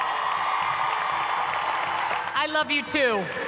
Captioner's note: cheers and applause